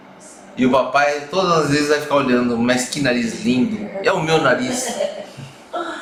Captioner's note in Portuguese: risos